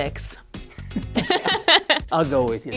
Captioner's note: both laughing